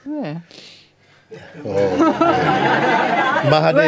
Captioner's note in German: Lachen